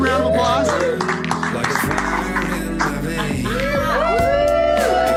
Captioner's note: applause and cheering